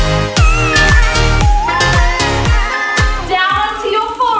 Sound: timer beeping

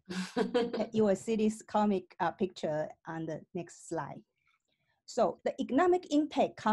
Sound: laughter

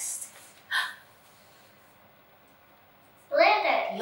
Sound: gasping

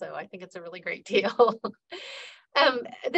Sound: laughing

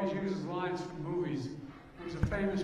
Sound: crowd noise

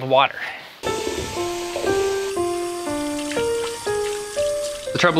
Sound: water running

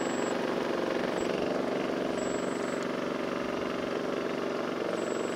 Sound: engine rumbling

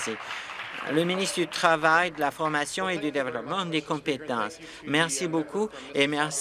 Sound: applause

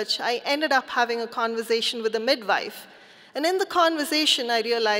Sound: none

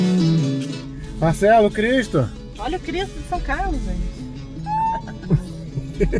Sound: laughter

